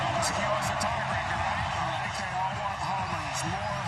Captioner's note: cheering